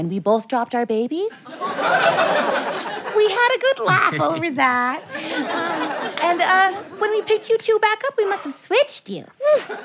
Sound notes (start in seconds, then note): 1.4 audience laughter